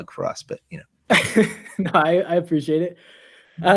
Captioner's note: laughs